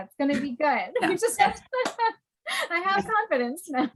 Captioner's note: laughing